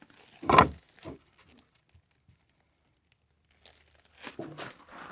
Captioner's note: wood thumping